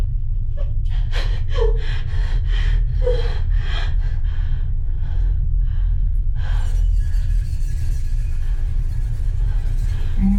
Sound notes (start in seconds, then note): 5.4 Kat breathing more calmly